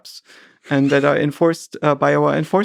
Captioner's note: Lex chuckles